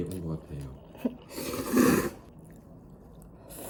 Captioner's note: slurp slurp slurp